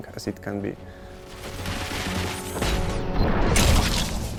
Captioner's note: heavy gunfire; explosion